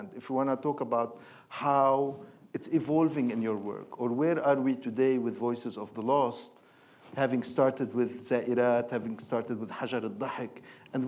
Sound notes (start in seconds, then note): 7.8 speaking in foreign language